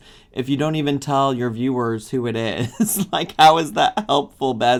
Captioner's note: laughs